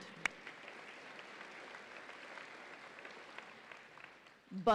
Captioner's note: audience applauds